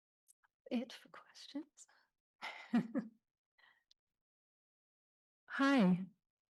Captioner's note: chuckling